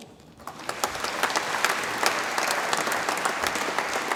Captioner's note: audience applauds